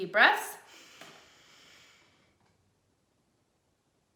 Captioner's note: deep inhaling